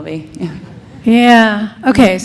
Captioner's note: audience laughs